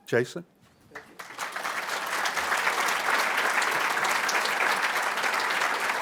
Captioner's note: applause